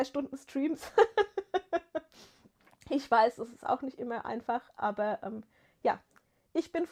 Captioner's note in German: gelächter